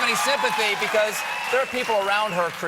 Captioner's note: cheers and applause